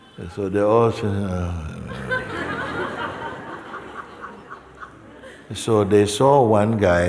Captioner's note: laughter